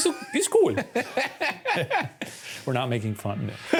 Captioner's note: laughs